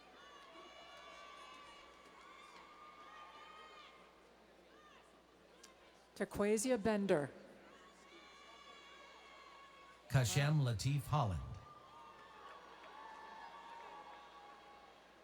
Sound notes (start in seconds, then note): 10.1 cheers and applause